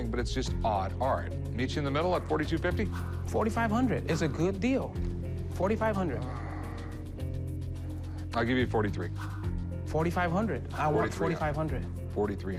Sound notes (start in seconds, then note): 6.1 sighs; 12.4 suspenseful music